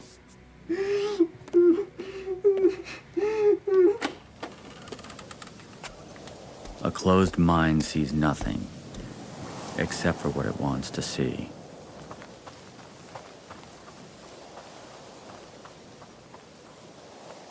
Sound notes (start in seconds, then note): 1.4 footsteps tapping; 3.9 door clicking; 3.9 wind whistling; 11.8 footsteps pattering; 14.2 insects chittering